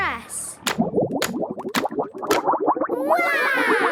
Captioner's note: bubbling